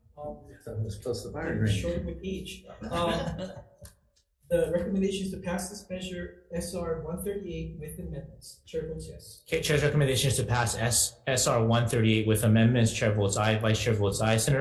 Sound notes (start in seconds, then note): 2.8 laughs